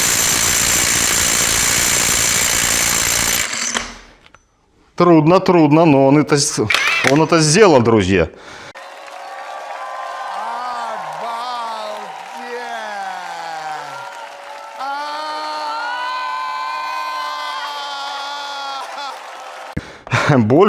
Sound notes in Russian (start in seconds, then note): 8.7 аплодисменты; 9.5 ликование; 16.3 крик